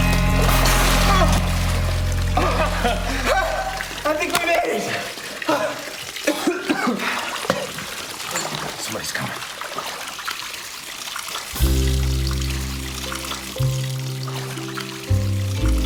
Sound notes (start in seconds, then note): 0.1 both gasping, coughing; 2.3 both laugh; 6.2 exhales heavily, coughs